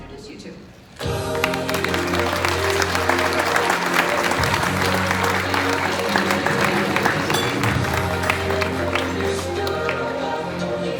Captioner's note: applause